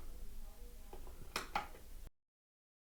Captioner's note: click